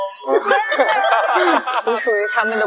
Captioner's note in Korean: 따라서 웃음; 고개 숙이고 웃음